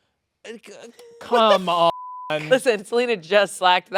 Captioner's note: beep